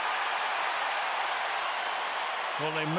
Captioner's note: crowd cheering